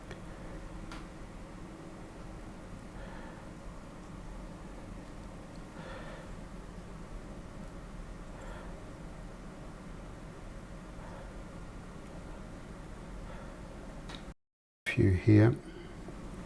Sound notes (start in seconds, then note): 2.7 silence